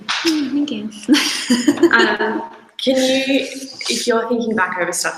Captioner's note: both laugh